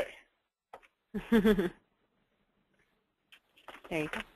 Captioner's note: laughs